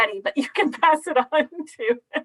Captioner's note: laughing